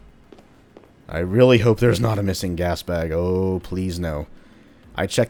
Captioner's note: chuckles